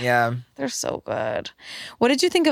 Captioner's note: none